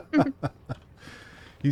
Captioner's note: laughter